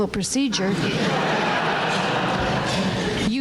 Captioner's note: laughter